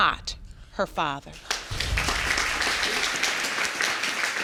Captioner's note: audience applauding